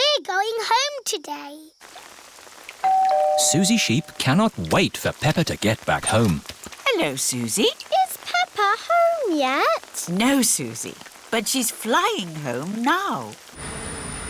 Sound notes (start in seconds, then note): 2.8 doorbell rings